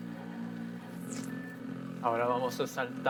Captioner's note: bass music; timer beeping; in foreign language